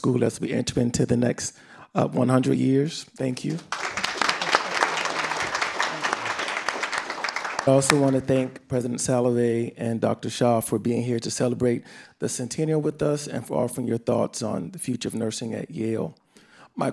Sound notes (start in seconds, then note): 3.5 audience applauding